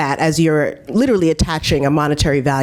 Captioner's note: none